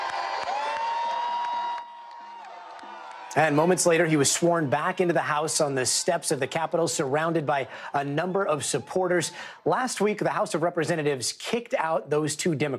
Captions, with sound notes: GROUP OF PROTESTERS AFTER THIS EVENING'S DECISION WAS FINALIZED. [ CHEERING ] >> AND MOMENTS LATER HE WAS